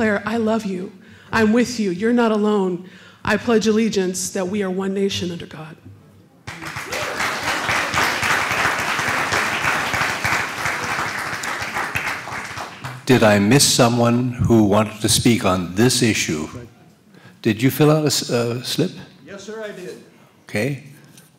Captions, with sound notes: you. I am with you. You are not alone. I pledge allegiance that we are one nation under God. . (Applause) »: Did I miss someone who wanted to speak on this issue? Did you fill out the script? »: Yes, I did. A